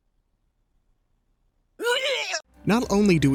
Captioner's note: dry heaving continues